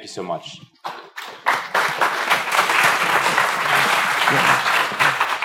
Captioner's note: applause